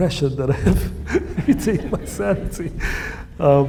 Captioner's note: laughs